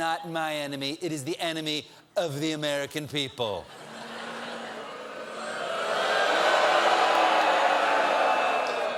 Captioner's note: audience booing